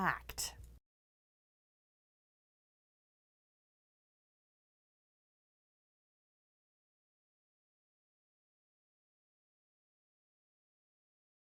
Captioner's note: no Sound Present